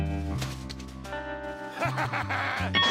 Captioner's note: laughs